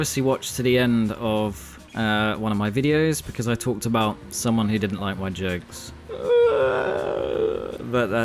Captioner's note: SOBs